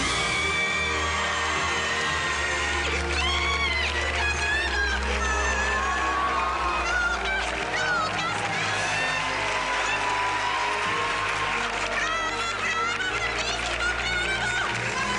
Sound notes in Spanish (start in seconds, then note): 0.1 Aplausos; 0.1 Gritos y exclamaciones; 5.1 Aplausos y gran griterío; 14.6 Aplausos